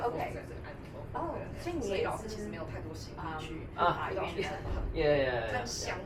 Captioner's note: speaking in foreign language